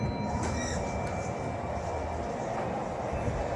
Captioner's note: chime